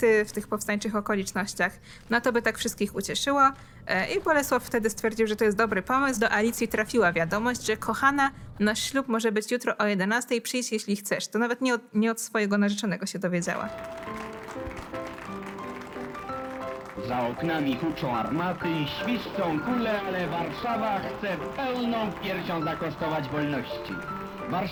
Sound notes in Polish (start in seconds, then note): 14.5 odgłosy braw; 15.8 wesoła muzyka